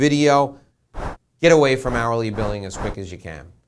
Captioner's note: air whooshing